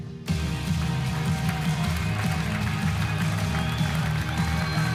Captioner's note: audience applauding